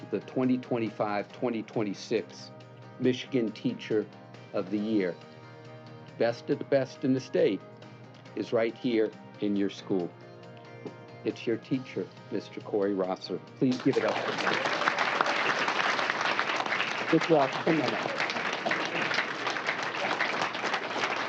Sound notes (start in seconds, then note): 13.6 applause